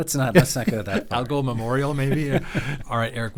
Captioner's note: chuckling; laughing